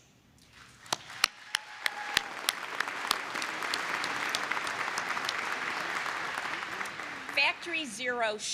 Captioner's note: applause